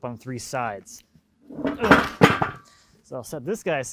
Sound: log clanking

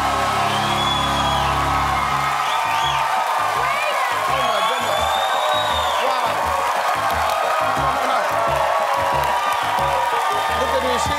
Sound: cheers and applause

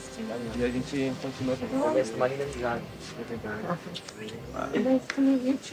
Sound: all speaking in foreign language

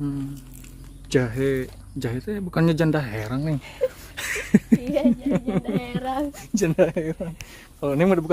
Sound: laughs

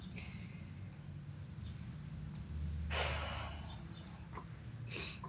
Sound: she sighs

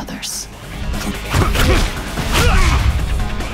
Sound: Jin groans

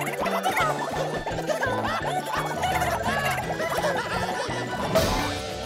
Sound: laughing

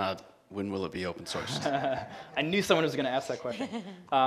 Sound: laughs

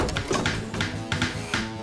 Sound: hammering

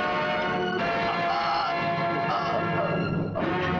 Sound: groans

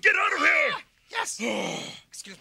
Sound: yells; Gonzo yelling

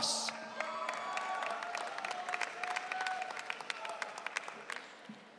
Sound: audience cheering

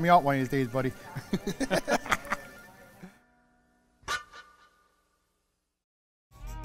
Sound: laughing

